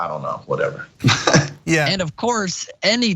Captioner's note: laugh